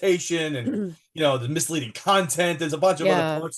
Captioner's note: clears throat